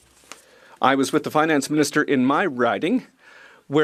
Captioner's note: speaking French